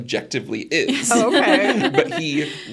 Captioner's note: participants laughing